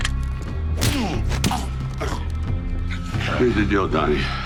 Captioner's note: fist thudding; Donnie groaning